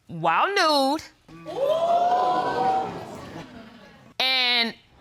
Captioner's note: audience exclaiming